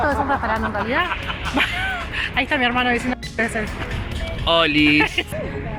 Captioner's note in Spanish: risas